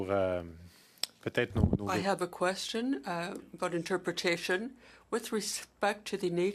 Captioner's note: speaking French